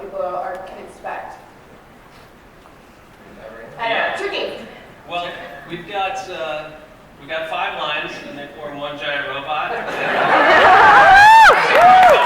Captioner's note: laughter